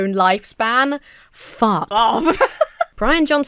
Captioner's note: synthesized Voice; laughs